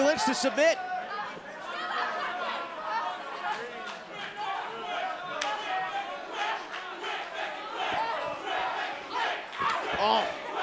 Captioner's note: crowd cheering